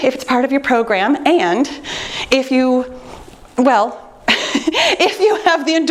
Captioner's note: chuckles